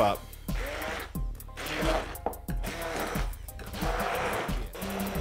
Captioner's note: blender motor running